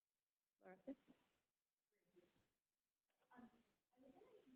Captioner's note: people talking